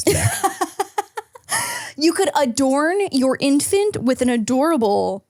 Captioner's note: laughs